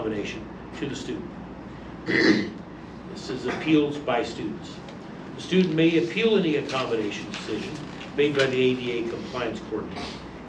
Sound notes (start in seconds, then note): 0.0 stammers; 2.0 clears throat; 5.4 reading from paper